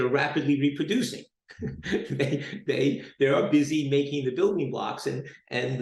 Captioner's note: chuckles